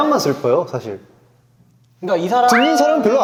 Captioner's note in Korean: 정적